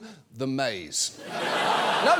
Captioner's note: audience laughs